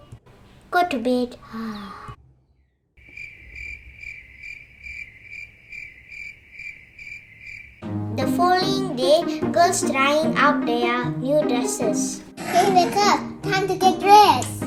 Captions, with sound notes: Go to bed. [sighing] Hey, wake up. Time to get dressed.